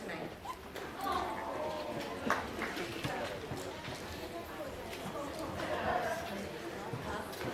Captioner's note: audience chattering